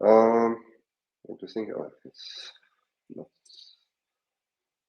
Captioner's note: mumbles